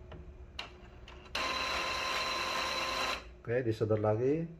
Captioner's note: printer machine sound